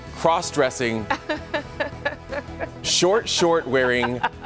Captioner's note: laughter